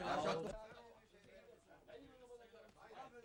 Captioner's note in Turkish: tarştişma sesleri̇